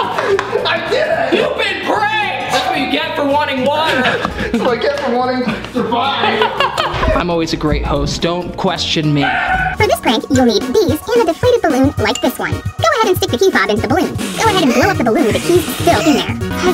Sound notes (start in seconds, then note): 10.0 funny voice